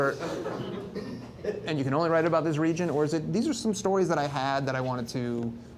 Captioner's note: laughs